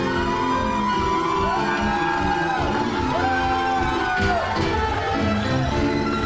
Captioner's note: cheering